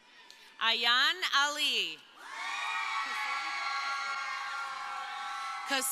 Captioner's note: crowd cheering